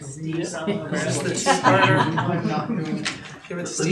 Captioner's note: group chattering